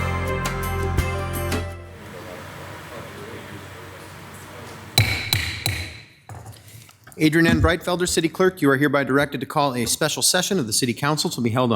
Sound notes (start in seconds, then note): 5.0 gavel thuds